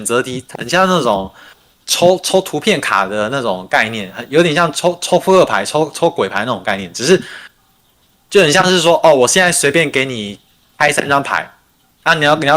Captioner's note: non-english speech